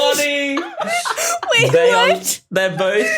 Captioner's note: group laughing